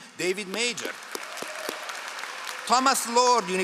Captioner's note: all applauding